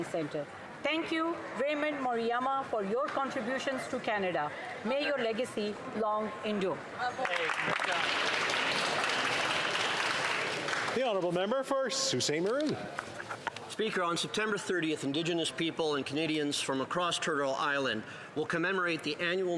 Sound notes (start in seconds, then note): 12.9 some Applause